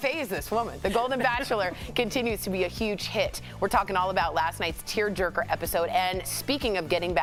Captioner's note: laughter